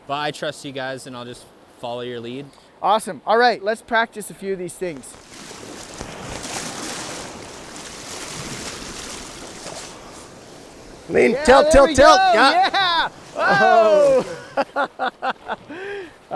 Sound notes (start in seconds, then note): 5.9 river water sounds; 5.9 water splashing; 14.8 laughs